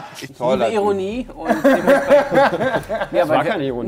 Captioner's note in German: Lachen